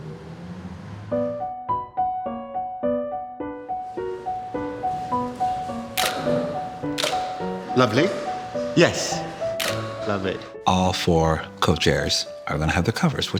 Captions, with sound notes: [gentle piano music] [camera shutters] - Lovely. Yes. [camera shutters] - Lovely. - All four co-chairs are gonna have the covers,